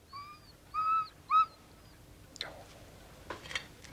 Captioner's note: dog whines